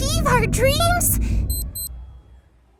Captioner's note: beep beep